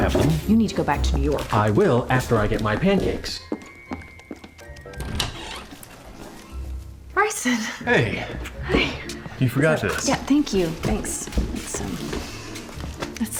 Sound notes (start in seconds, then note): 0.0 knocking on door; 2.1 footsteps, door opening